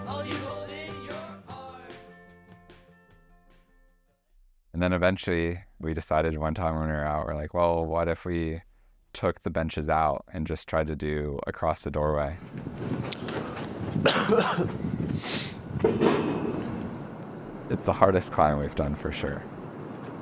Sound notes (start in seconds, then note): 0.0 music fades; 14.0 coughing